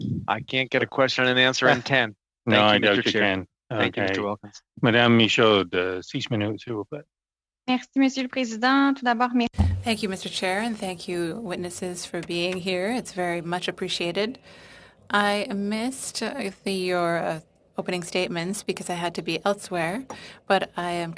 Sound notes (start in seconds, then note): 14.5 speaking French